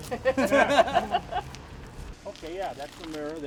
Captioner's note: background laughter